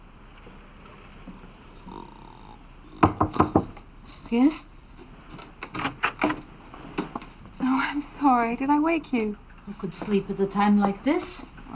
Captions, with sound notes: (knocks) - Yes? - Oh, I'm sorry, did I wake you? - Who could sleep at a time like this?